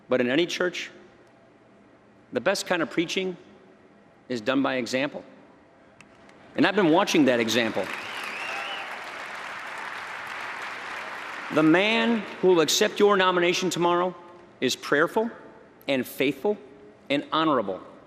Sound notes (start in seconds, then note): 10.4 applause